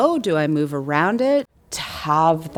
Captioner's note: none